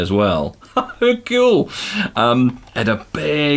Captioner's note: chuckles